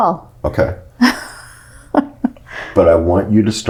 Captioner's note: laughs